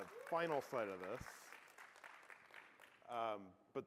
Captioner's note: applause